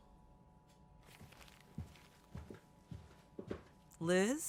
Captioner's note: paper shifting; footsteps receding